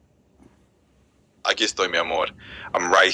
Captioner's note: spanish